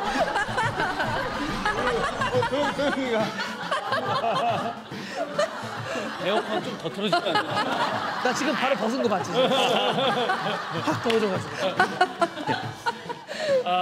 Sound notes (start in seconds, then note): 3.5 chuckling; 12.3 chuckling